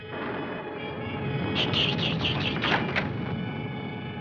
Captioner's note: whispering